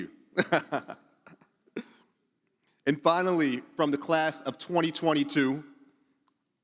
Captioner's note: laughs